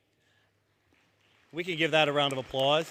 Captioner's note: applause